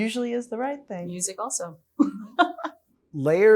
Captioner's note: chuckles